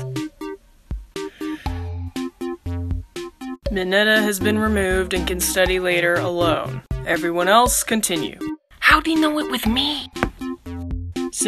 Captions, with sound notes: [Sigh]... Mineta has been removed and can study later... Alone Everyone else, continue How'd he know it was me?